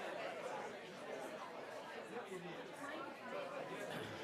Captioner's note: background chatter